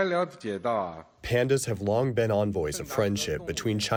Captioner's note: through translator